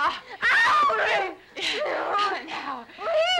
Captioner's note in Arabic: بابس ونيللي يصرخان